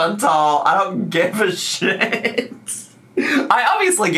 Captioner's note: laughs